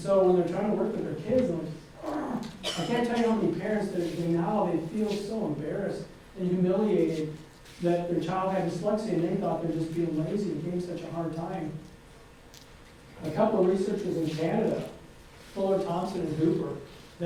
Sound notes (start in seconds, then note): 2.0 groans